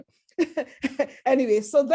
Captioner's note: laughter